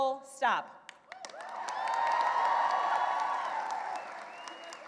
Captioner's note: cheering and applause